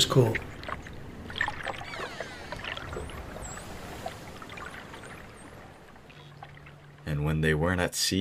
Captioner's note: ocean waves, dolphins squeaking